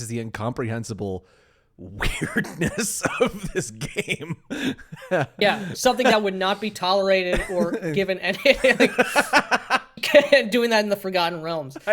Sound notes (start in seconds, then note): 9.9 laughing